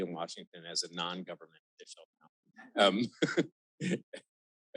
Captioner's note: chuckles